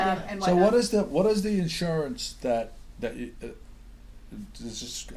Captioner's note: voiceover